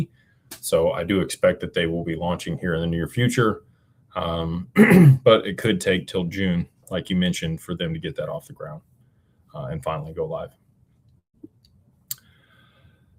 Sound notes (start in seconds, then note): 4.7 clears throat